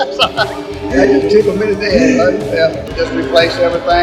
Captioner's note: laughs